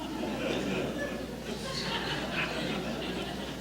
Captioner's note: laughter